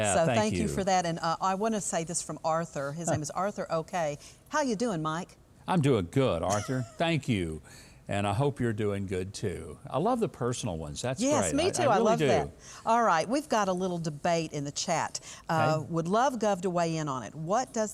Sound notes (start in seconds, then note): 9.8 laughing